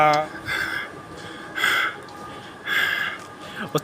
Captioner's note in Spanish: Respiración Pesada